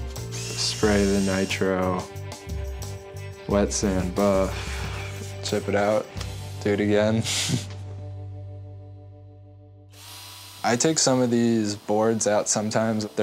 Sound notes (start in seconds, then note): 6.8 laughs